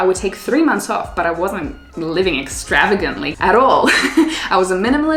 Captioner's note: laughs